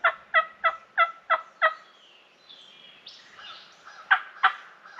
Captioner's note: mimicking turkey call